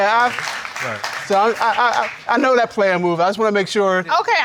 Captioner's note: stutters